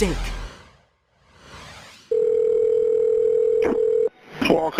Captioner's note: phone rings